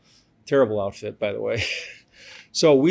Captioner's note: laughs